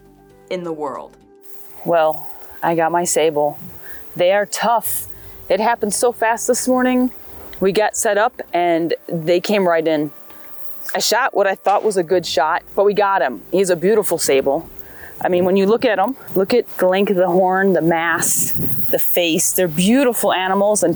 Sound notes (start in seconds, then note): 11.6 bow firing